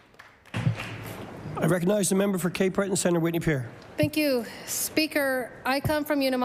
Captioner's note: applause